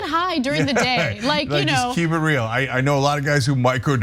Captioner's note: laugh